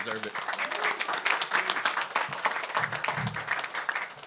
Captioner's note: audience applauds